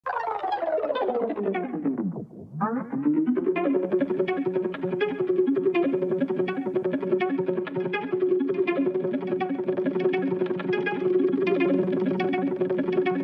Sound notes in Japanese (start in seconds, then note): 2.0 レコードの巻き戻し音; 5.1 オープニングミュージック